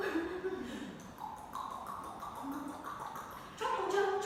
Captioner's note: clicking tongue